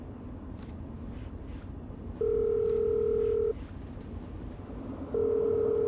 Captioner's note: dialing, ringing